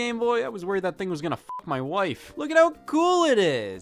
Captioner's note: beep